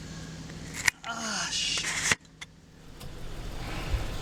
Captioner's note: groans in pain